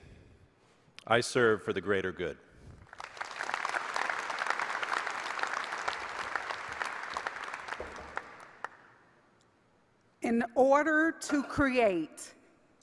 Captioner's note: applause